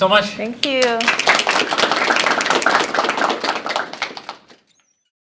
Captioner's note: applause